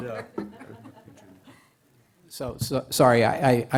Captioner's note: laughter